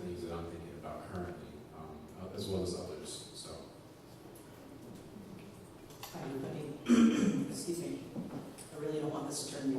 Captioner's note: coughs